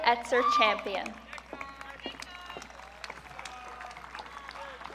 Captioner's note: audience cheering